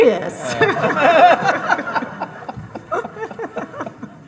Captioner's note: all laughing